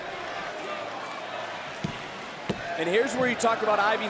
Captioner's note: crowd chants "this is awesome"